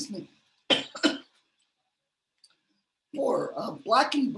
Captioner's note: coughs